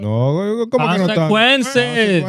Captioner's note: speaking In Foreign Language